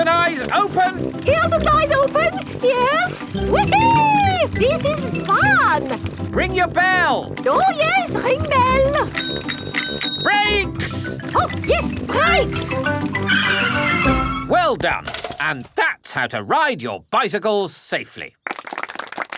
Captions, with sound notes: Ears and eyes open! Ears and eyes open. Yes. Whee-hee! This is fun! Ring your bell! Oh, yes. Ring bell. -(RINGS BELL) -Brakes! Oh, yes. Brakes. (TIRES SCREECH) Well done! And that's how to ride your bicycles safely!